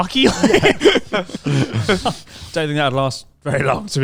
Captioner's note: laughing quickly